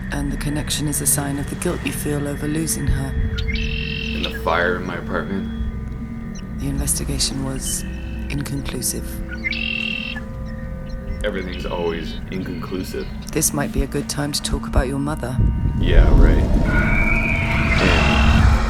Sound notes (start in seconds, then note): 3.5 songbird; 9.4 songbird; 16.4 scream; 17.0 roar